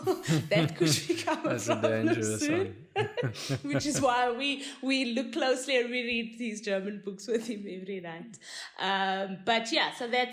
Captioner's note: laugh